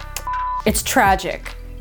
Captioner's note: screen beeps